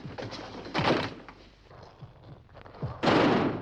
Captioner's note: estrondo tiros